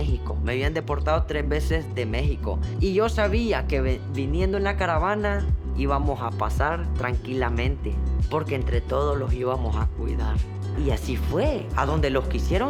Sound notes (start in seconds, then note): none